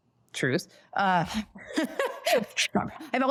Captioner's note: laughs